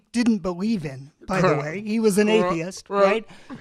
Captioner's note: chuckles